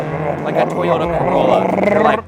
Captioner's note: imitating car engine